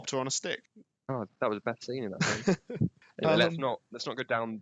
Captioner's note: laughter